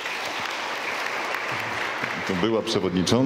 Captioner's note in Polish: oklaski